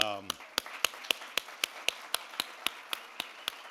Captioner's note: audience applauds